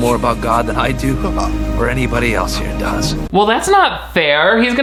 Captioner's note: Robert whimpers